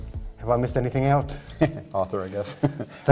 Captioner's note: laughs